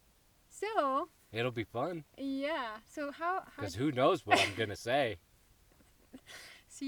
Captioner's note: laughs